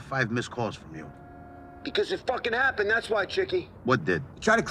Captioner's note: on phone